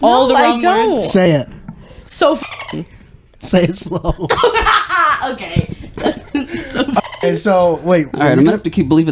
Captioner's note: laughing